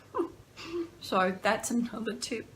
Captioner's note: laughter